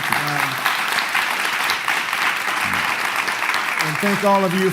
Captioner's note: clapping